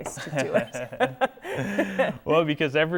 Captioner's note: laughing